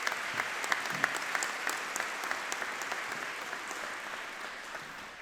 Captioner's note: audience clapping